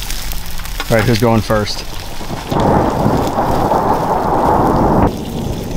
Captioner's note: thunder rumbles